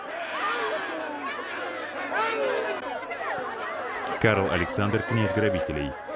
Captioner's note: group chattering; laughing